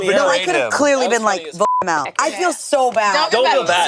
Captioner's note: beep